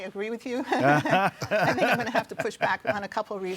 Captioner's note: all chuckle